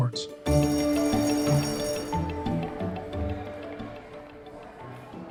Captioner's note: lively instrumental music; bell ringing; students chattering